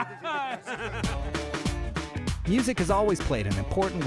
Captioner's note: laughs